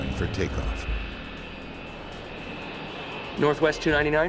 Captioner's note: airplane engine roaring